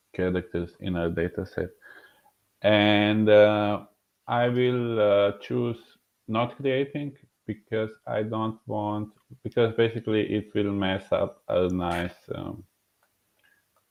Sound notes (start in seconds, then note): none